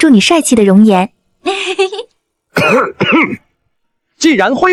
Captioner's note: coughs